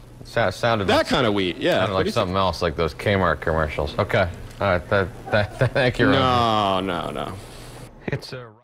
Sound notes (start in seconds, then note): 2.0 pat; 5.2 chuckles